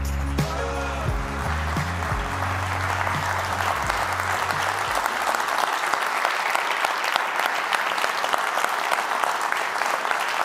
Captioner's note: appluase